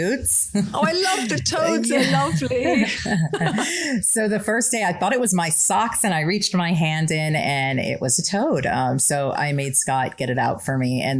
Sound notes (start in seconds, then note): 2.6 laugh